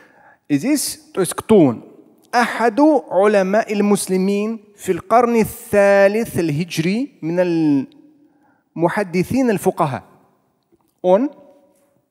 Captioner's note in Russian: Говорит на арабском